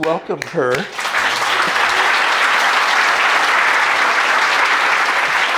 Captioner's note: audience applauding